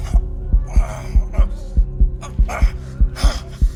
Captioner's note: faster and stronger heartbeat; grunts in effort